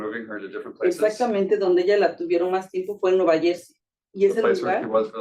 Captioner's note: speaking Spanish